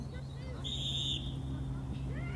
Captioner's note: referee blows whistle